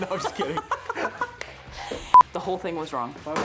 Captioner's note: laughing